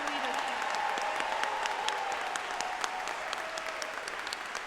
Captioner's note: audience applauding